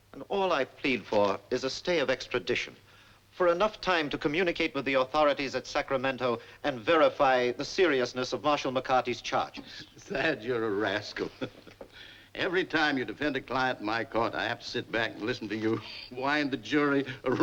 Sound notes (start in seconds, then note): 11.1 chuckles